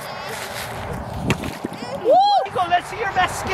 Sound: water splashing

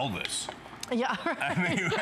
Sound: laughter

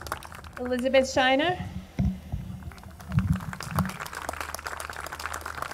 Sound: audience clapping

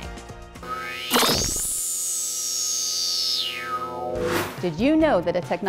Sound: sound Effects

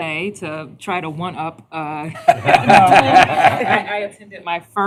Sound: laughter

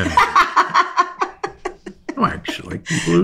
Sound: laughs

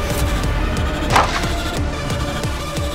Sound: thud

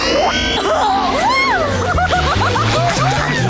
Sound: laughing

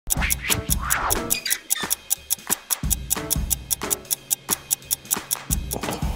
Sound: clock ticking

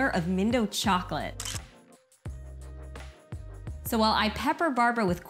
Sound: camera shutter noise

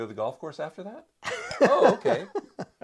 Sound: laughs

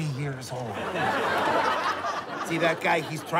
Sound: laughter

